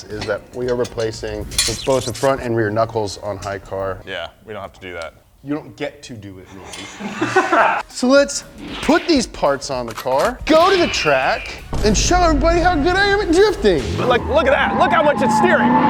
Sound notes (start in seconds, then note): 6.6 both laughing